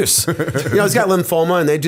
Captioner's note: chuckle